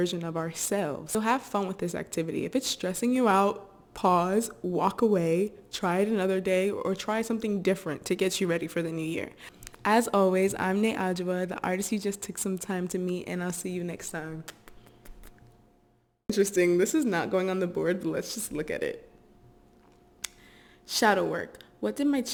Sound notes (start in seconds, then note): 14.4 air kisses